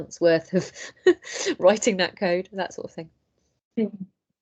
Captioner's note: laughs